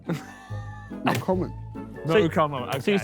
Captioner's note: Sidemen laugh